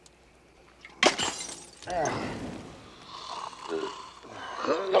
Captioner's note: bottle crashes